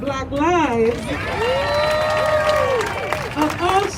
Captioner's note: crowd cheering